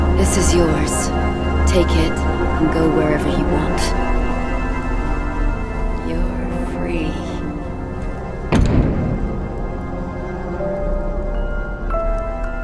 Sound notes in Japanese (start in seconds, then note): 8.5 扉が閉まる音